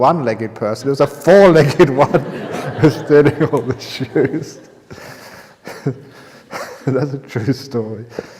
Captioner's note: laughter